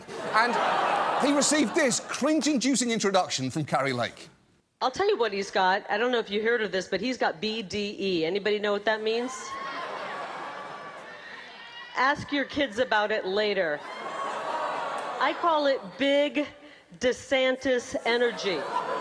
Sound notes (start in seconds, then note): 9.2 crowd clamors; 13.9 studio audience groans